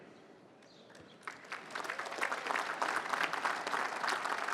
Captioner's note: applause